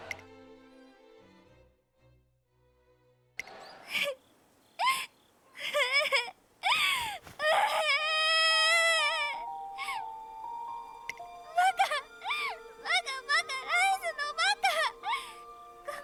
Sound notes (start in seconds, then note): 3.5 crying